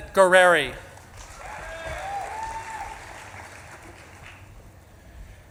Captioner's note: audience claps and cheers